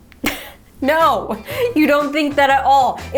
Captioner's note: chuckles